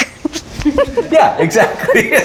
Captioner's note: laughing